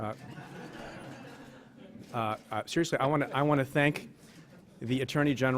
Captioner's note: laughing